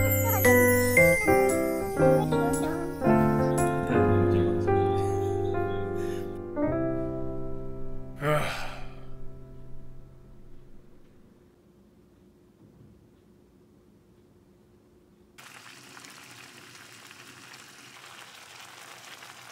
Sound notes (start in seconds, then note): 8.2 sigh